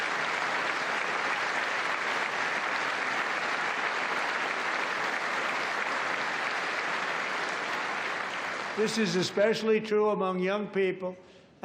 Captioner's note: applause